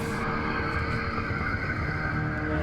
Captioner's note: ominous humming